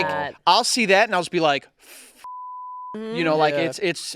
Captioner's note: beep